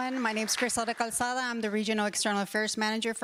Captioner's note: applause